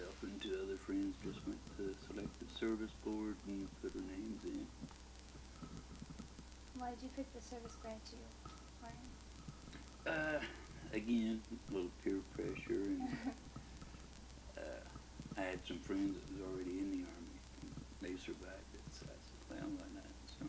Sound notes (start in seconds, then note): 10.0 chuckles